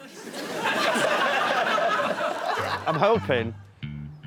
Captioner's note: laughter